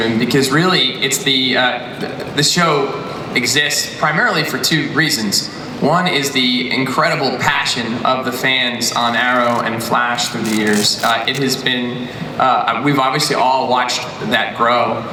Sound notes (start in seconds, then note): none